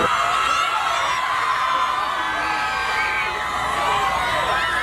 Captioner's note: crowd shouting